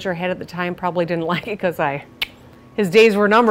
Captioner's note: tongue click